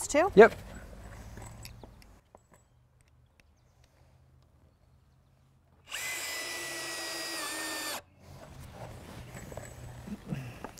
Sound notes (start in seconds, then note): 3.6 drill whirring, no additional audio